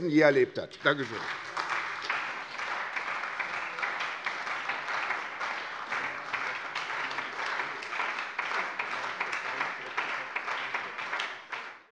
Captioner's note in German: Beifall bei der SPD